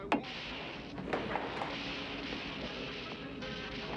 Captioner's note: cartoon clatter